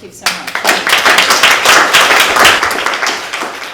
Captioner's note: applause